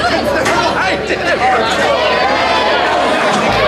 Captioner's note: crowd shouting